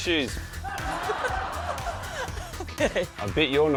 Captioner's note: laughs